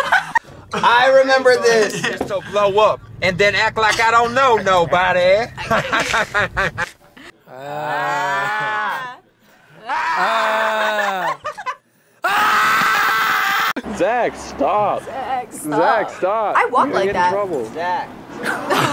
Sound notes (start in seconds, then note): 0.0 laughs; 5.8 laughs strangely; 9.8 laughs; 12.2 filmer screams